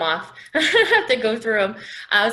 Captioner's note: laughing